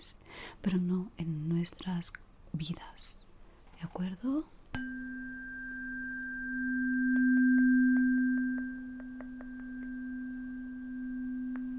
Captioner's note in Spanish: campana